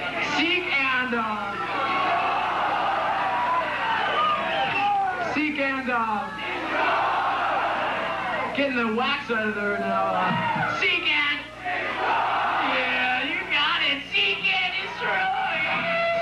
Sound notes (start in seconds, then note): 3.5 crowd cheering; 8.0 crowd; 13.5 crowd